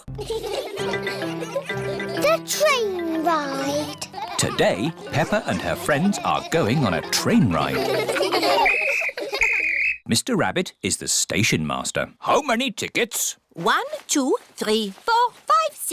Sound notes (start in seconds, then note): 0.1 laughter; 8.6 blows whistle